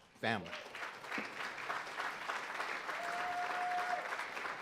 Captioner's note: audience applauding